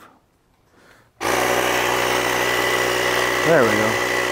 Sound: air whirring

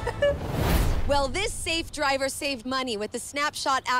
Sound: chuckles

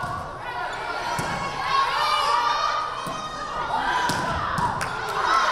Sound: crowd cheering

